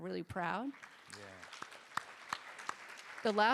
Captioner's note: applause